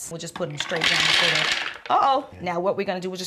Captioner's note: hazelnuts pouring